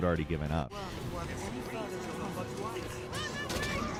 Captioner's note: characters chatter